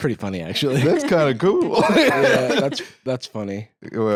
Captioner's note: laughs